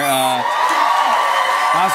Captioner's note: cheers and applause